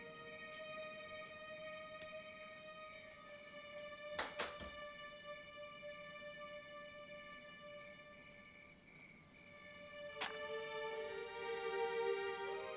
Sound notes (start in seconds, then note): 4.2 door closing; 10.2 match lighting